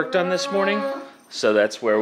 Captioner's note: groans